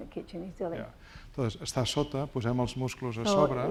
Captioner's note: speaking spanish